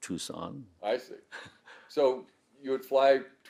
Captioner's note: laughing